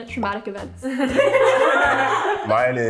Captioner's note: ladies laughing